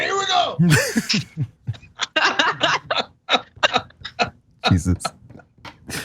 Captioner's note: laugh